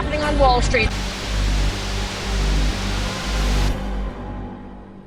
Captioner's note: static hissing